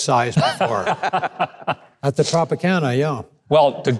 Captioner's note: laughing